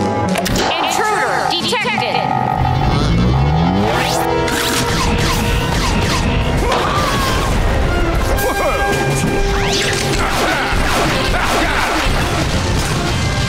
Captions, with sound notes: Intruder detected. [screaming] [grunting]